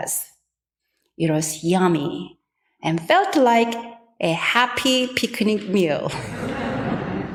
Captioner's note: laughs